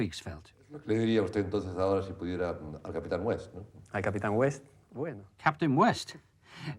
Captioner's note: men speaking in foreign language